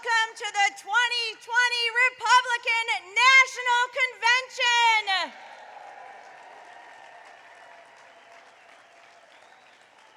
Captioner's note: cheers and applause